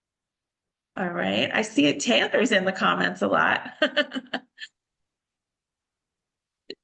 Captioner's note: laughs